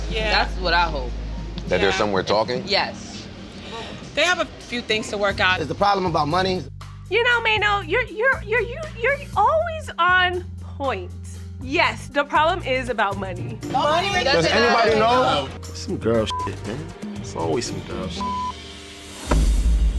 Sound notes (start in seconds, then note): 8.1 stammering